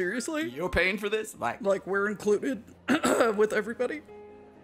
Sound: coughs

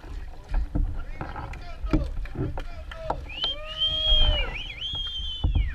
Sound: shouting, whistles

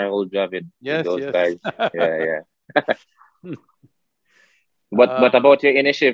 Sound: laughs

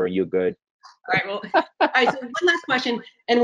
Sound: laughing

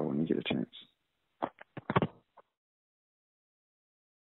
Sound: hanging up the phone on the other end of the line

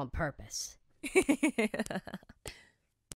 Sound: giggles

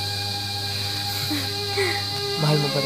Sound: both chuckles

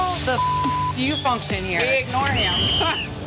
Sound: laughs

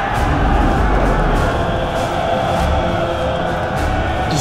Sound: soldiers screaming in battle, men’s choir

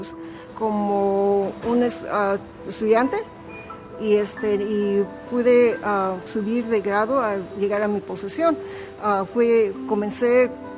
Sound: Spanish

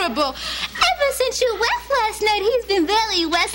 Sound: baby talk

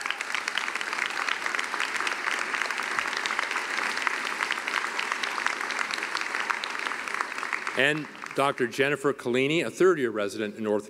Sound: applause

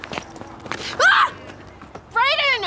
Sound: Celeste screams

